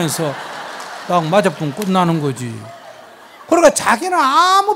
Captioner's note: audience laughs